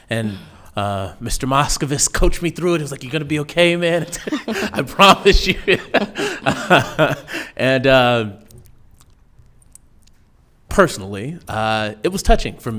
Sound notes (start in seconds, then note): 5.7 laughing